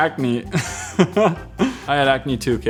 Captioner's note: laughing